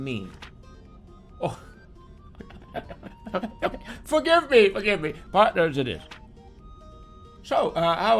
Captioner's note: old man laugh